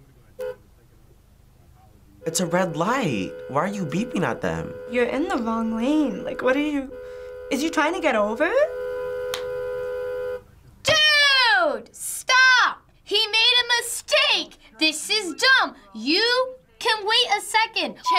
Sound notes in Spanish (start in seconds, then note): 2.2 coche tocando la bocina; 8.4 bocinazo largo